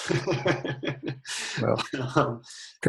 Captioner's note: laughter